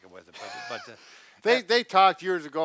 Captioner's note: laughs